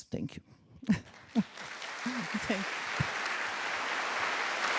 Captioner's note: crowd clapping